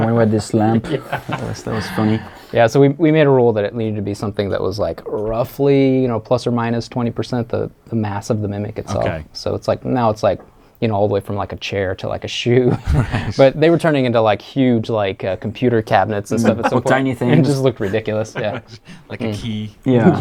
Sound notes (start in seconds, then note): 16.3 interviewer laughs